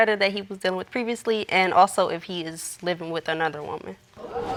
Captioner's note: audience exclaims